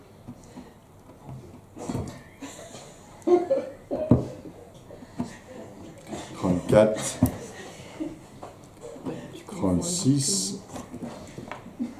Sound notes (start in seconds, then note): 7.4 laughs